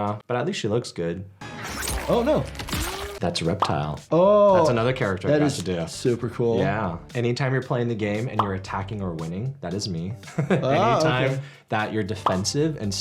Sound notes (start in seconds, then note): 1.8 blade pings